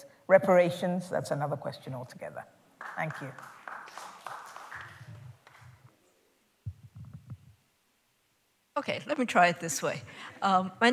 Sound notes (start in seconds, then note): 2.8 applause